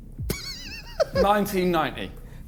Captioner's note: JJ laughing